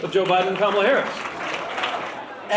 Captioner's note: applause